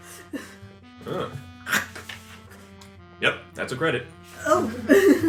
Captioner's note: bites